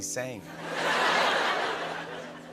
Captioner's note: laughter